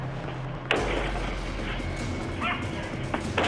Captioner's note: banging